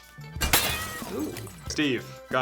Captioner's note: glass shatters